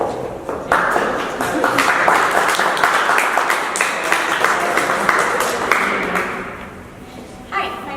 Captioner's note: claps